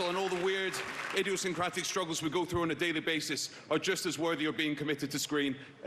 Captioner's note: applause